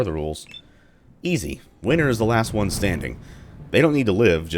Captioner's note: thunder